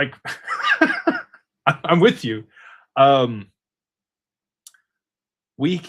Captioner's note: laughter